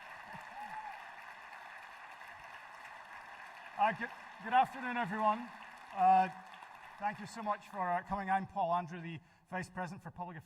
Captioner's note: cheering and applause